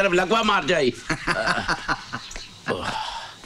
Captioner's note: Laughs